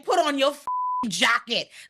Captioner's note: beep